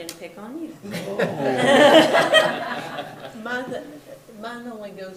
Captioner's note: all laugh